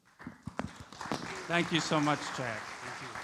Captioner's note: audience applauds